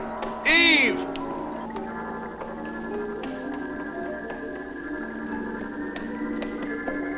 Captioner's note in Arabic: موسيقى هادئة; خطوات قوية